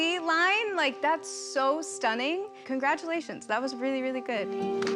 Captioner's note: applause